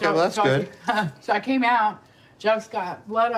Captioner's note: laughs